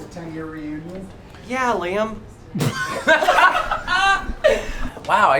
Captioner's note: laughter